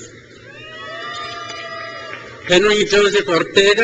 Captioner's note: crowd cheers